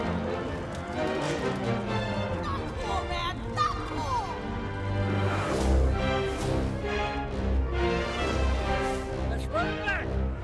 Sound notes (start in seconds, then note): 0.1 adventure music; 5.1 cars revving; 6.8 adventure music